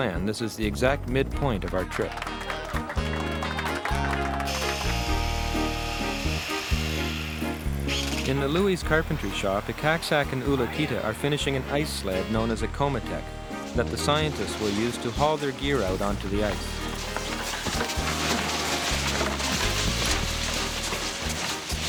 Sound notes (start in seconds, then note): 1.5 clapping; 4.6 electronic whirring; 17.3 ice scraping; 18.9 snow crunching